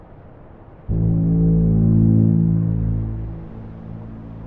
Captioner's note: horn blares